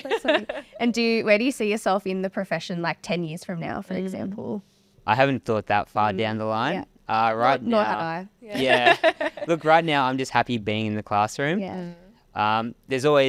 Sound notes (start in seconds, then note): 8.6 laughing